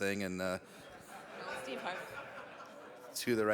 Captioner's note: audience laughing